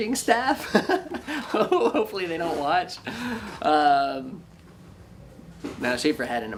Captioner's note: laughs